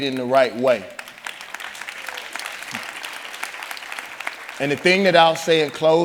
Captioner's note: audience applauding